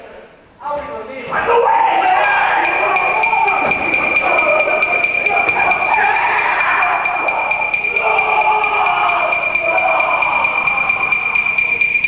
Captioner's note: sailors scream, in panic and pain